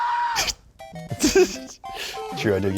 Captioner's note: laughing; young screaming